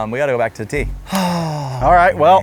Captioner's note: sighs